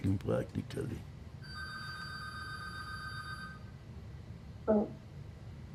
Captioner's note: phone ringing